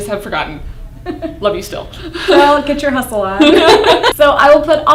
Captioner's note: laughter